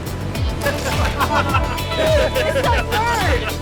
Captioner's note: laughter